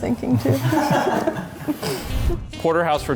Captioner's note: offscreen laughs